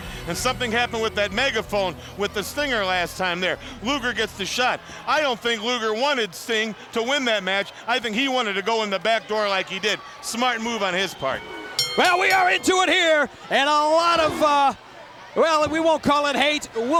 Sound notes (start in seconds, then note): 11.6 bell rings